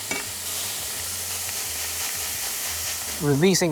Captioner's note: sizzling sound